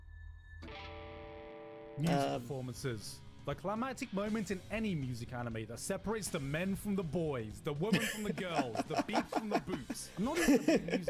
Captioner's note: laughing